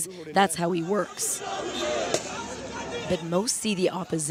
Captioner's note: foreign language